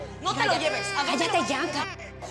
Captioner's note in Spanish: el bebé llora